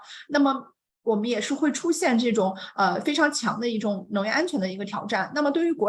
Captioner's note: continues speaking in Mandarin